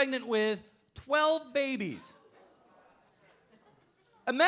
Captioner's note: audience murmuring